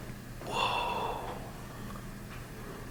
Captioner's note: whispers